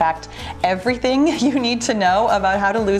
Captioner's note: chuckles